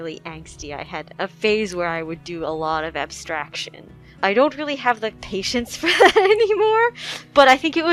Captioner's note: laughing